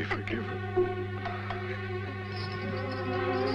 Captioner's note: cup clattering; suspenseful orchestral music